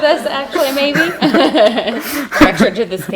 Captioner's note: laughing